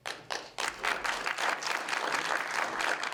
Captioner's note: applause